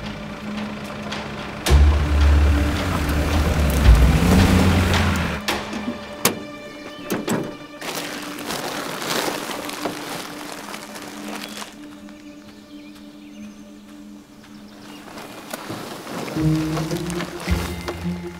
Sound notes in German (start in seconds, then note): 8.4 Rascheln; 16.9 Vorsichtige Musik